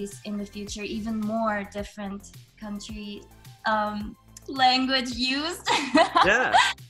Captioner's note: laughs